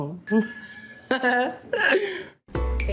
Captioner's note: chuckles